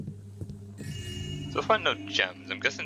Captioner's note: joyous chimes